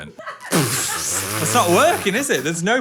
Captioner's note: and crew member laughing